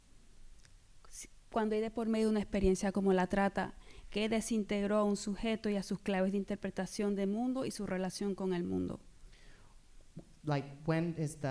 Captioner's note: speaking spanish